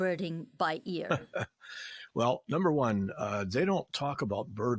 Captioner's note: laughing